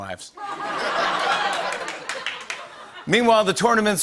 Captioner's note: laughter